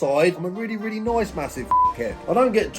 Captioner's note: beep